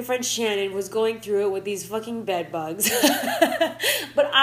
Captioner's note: laughing